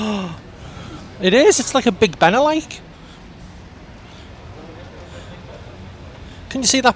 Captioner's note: gasp